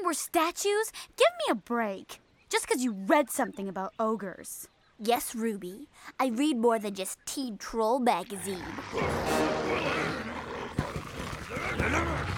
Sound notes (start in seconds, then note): 8.3 ogres muttering